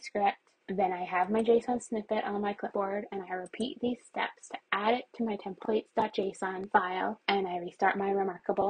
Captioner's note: more mouse clicks; more mouse clicks